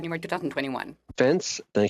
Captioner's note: speaking French